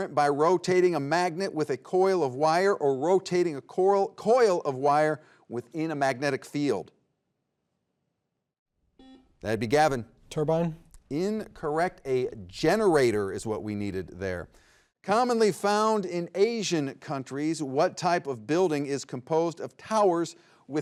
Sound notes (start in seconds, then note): 9.0 buzzer beeps